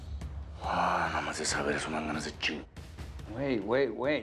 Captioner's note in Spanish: suspiro